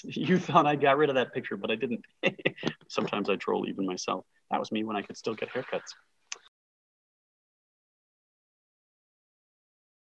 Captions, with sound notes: You thought I'd got rid of that picture, but I didn't. (laughing) Sometimes I troll even myself. That was me when I could still get hair cuts.